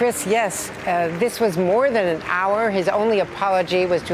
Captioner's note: applause